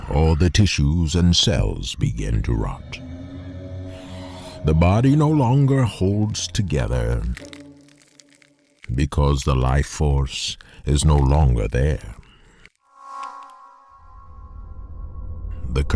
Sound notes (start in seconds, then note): 3.8 eerie music; 12.1 flesh crackling; 12.9 space music